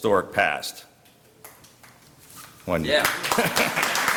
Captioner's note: applause; laughter